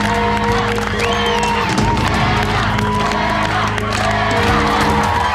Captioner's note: crowd on shore chanting; fans on shore applauding and cheering